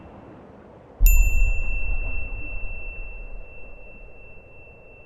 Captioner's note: bell chiming